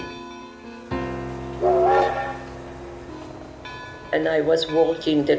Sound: train whistle blaring

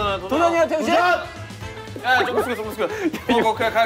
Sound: laughing

